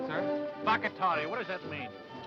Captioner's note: speaking foreign language